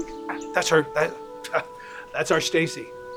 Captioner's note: scoffs